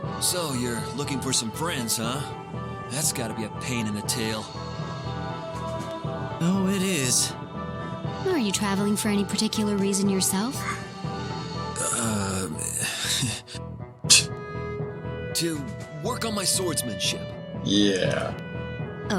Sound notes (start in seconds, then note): 12.8 laughs nervously; 14.1 scoffs; 17.7 skeptically